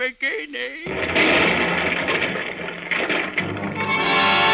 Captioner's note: gunshot